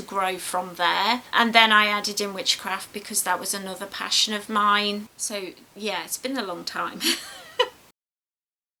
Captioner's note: giggles